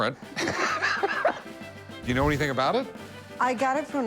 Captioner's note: laughs